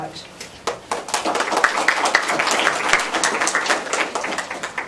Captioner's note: applause